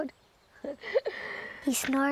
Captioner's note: laughing